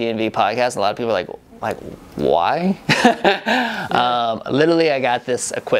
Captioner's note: laughs